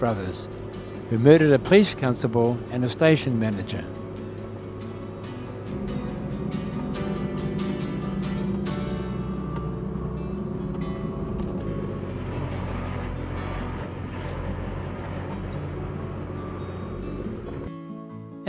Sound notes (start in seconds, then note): 3.9 music background and vehicle sounds